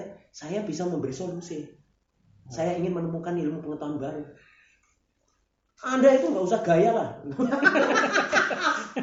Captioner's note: laughs